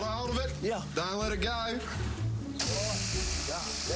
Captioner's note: shears whirring